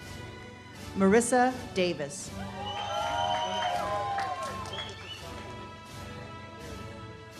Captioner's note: audience cheers and claps